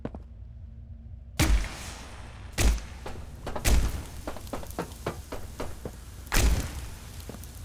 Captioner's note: gun firing